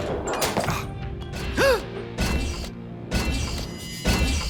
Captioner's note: gasps, metallic clank